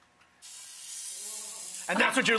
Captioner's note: chicken sizzles